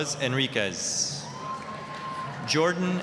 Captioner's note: applause, cheering